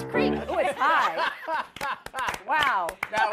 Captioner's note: laughter